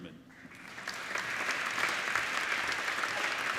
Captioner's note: applauding